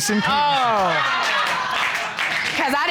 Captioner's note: audience laughing